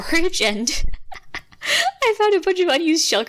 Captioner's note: faint laugh